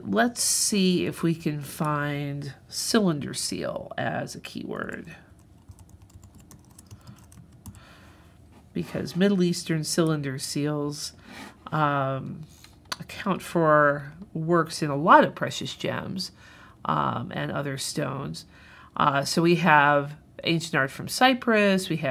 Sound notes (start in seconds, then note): 5.6 keyboard clicking